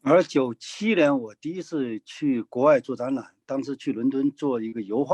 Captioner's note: speaking in foreign language